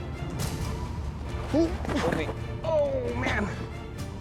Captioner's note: exclaims